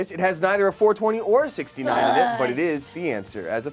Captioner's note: loud groaning